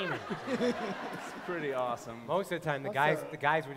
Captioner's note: laughter